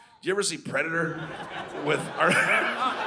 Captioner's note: audience laughing